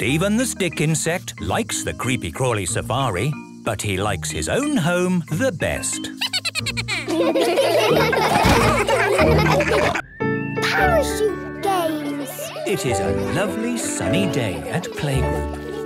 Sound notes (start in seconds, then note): 6.2 Steven giggles; 8.0 all laughing